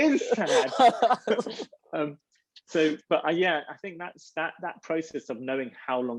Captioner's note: laughs